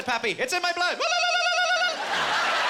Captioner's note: in Irish accent; war whooping